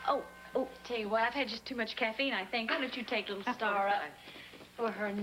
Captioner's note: doorbell rings